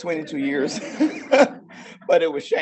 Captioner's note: audience laughing